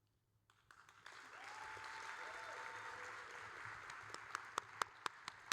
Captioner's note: audience cheering; applauding